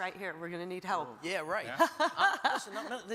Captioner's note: Hillary laughs